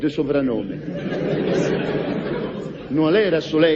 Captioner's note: laughs